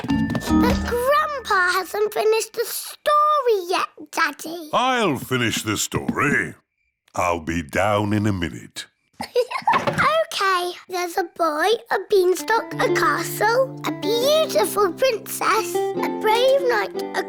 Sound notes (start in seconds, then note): 9.2 laughs